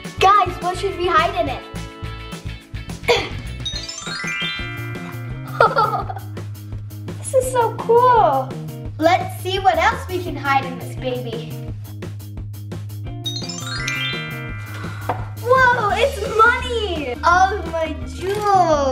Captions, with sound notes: Guys what should we hide in it? (magical sound) (laughs) This is so cool. Let's see what else we can hide in this baby. (magical sound) Woah, it's money! All my jewels.